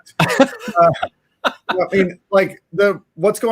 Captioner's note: laughing